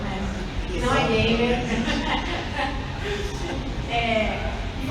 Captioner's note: laughs